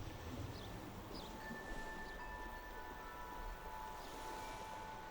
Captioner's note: chimes ting